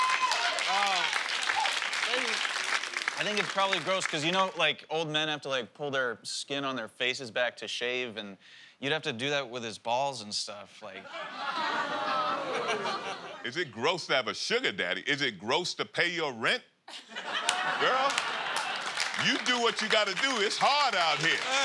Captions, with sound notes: Um, I think it's probably gross because, you know, like, old men have to, like, pull their skin on their faces back to shave and you'd have to do that with his balls and stuff, like... [ Audience groans ] Is it gross to have a sugar daddy? Is it gross to pay your rent? [ Laughter and applause ] Girl, you do what you gotta do. It's hard out here.